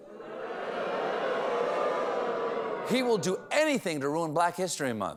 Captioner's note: audience reacts